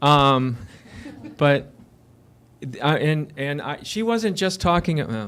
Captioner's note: laughter